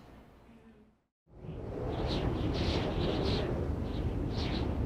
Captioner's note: wind whistling